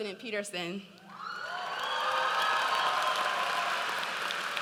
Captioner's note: audience cheers